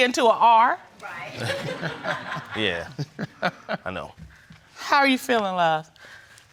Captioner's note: laughs